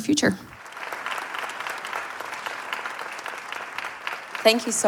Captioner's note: audience applauding